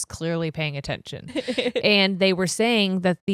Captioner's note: laughing